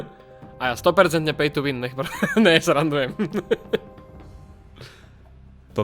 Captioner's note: laughs